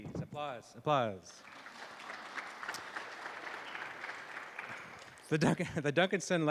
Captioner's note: applause